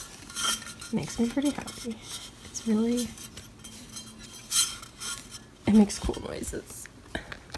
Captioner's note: metallic sound